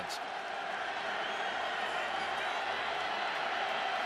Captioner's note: crowd cheering